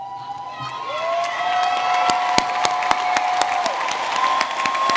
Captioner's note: audience clapping and cheering